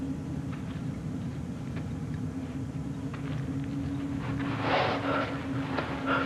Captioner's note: footsteps approaching; gasping